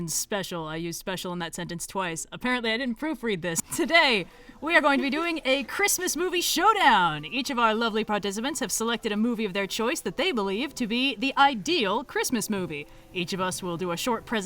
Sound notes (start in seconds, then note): none